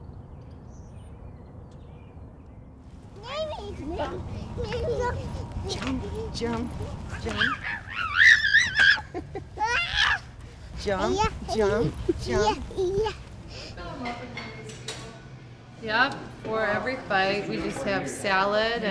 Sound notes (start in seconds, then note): 4.5 kid laughing; 7.7 yelling